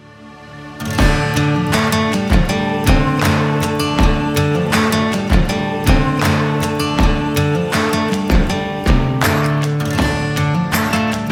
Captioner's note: clap